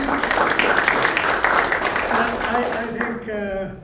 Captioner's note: applause